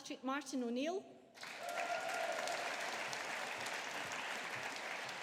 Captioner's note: audience applauding